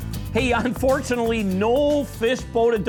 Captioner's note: voiceover